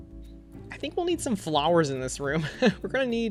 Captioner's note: laughs